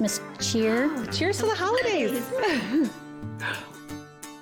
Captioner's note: cups clinking